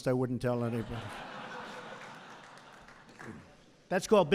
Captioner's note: laughter